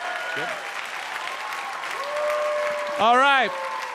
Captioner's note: audience applauds; audience cheers